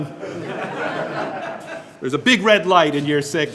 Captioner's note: group laughing